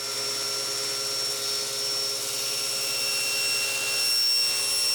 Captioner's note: table saw whirring